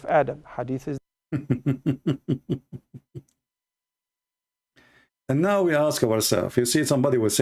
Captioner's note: Ketawa